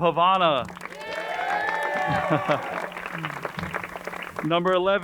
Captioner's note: crowd cheering and applauding